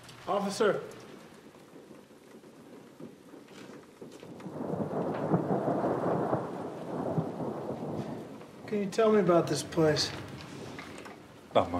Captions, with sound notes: Officer. ( Thunder Continues ) What can you tell me about this place?